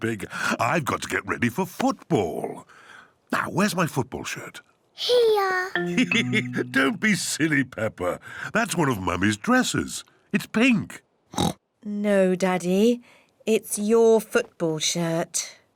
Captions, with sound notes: I've got to get ready for football. Now, where's my football shirt. Here. (LAUGHS) Don't be silly, Peppa. That's one of Mummy's dresses. -It's pink. -(OINKS) No, Daddy. It's your football shirt.